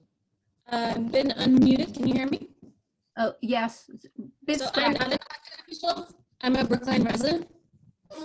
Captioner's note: static